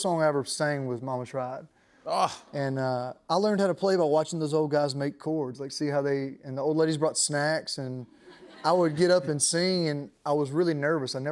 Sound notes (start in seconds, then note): 2.1 appreciative sigh; 8.1 laughter